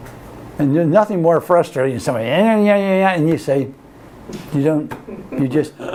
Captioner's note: mimicks sounds of someone complaining